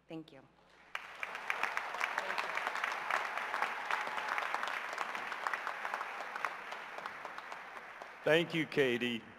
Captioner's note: applause